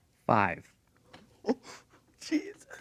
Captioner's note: laughing